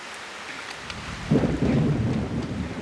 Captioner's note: thunder rumbling